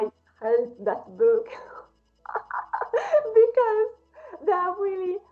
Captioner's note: laughing